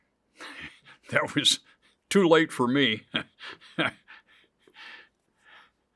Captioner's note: chuckles; laughs